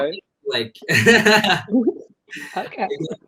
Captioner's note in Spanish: se ríe